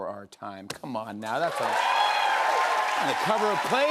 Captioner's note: cheers and applause